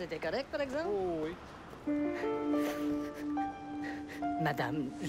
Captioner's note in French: Sanglots